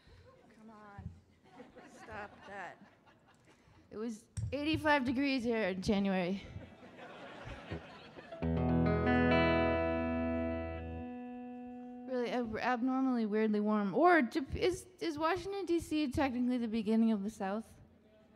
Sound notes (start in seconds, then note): 1.4 audience laughing; 6.6 audience laughing; 8.3 light guitar music